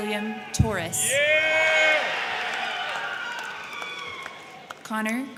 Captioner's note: crowd cheering; crowd clapping